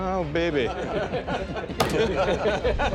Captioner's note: laughter